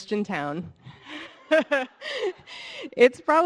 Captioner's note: all laughing